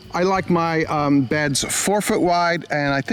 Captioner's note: none